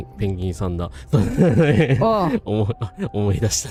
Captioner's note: laughter